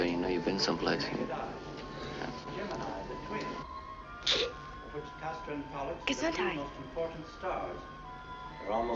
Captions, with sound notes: you've been some place. (sneezes) - Gesundheit